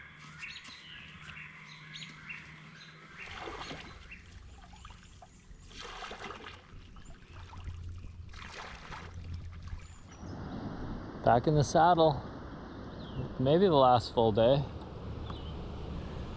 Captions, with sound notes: [splashing] [rushing water] Back in the saddle, maybe the last full day.